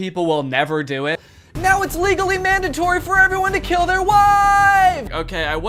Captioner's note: gasp